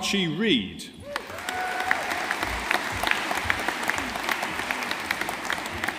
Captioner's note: audience applauding